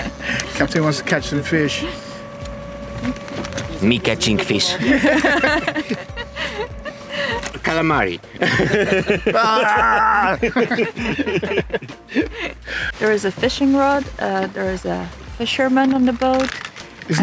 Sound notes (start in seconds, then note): 4.8 laughs; 9.7 yelling; 10.9 laughs